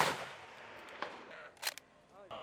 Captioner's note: shots fired; reloads